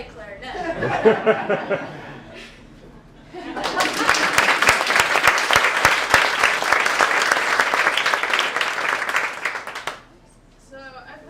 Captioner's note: laughter and applause